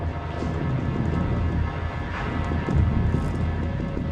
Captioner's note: dark ambient music; thunder roaring